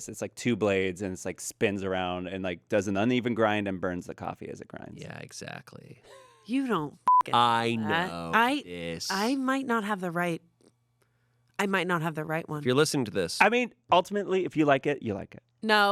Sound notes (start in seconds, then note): 7.0 beep